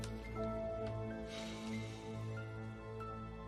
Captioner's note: sighing